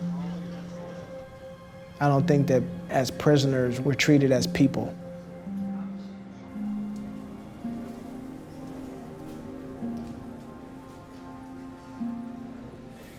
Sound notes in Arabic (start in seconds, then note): 7.0 ثرثرة الناس; 7.0 موسيقى محيطة تأملية